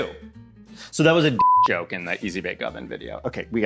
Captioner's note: beep